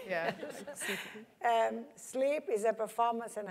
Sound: laugh

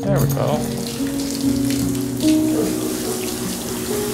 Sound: running water

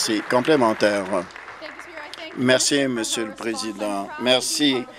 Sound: applause

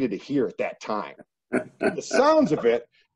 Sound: coach laughs

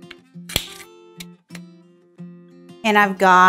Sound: lid clicks

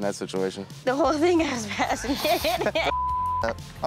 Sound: laughs; beep

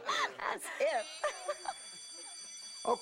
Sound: bell ringing

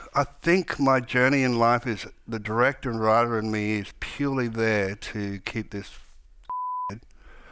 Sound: none

